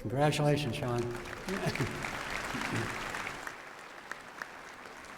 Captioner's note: applause